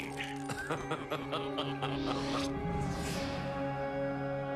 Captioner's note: laughs